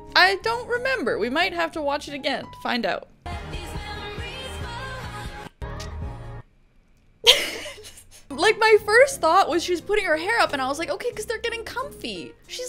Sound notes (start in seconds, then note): 7.3 light laughter